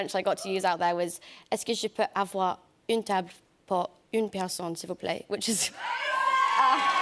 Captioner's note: speaking French; cheers and applause